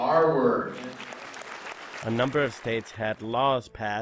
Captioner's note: applause